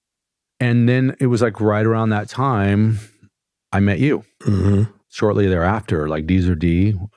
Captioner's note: clears throat